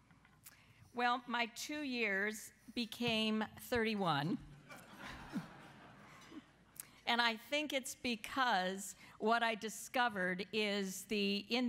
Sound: laughter

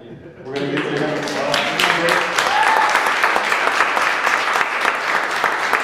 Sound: audience cheering and clapping

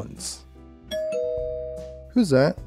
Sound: ding Dong

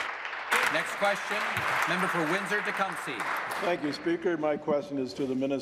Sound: applause

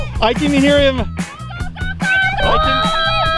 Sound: family cheering

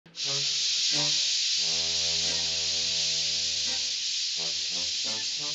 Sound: air hissing; quirky music

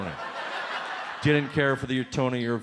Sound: audience laughs

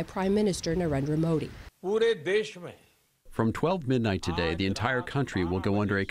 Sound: through translator

